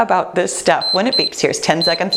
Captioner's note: timer beeps